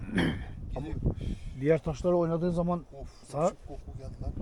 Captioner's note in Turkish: boğazını temizler